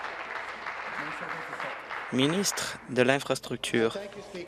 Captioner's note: applause